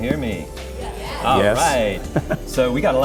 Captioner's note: crowd